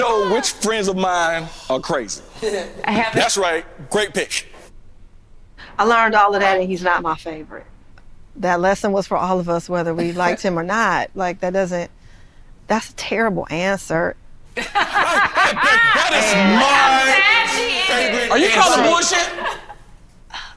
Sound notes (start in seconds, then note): 14.6 everyone laughing